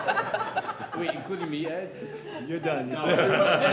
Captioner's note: laughter